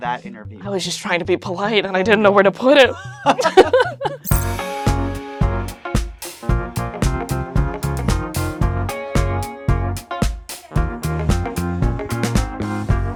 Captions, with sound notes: - I was just trying to be polite and I didn't know where to put it. (both laugh) (upbeat music)